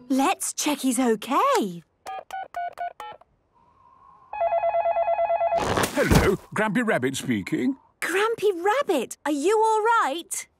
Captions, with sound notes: - Let's check he's okay. - (dial tones beeping) - (phone ringing) - Hello, Grampy Rabbit speaking. - Grampy Rabbit! Are you alright?